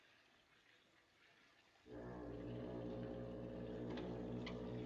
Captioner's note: foghorn Blows